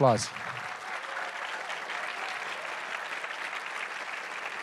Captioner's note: audience applauding